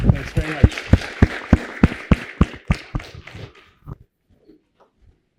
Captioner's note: applause